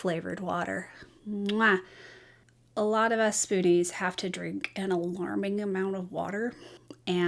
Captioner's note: making kiss sound